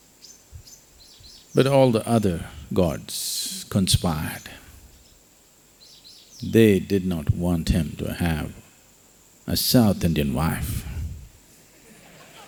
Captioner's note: laughter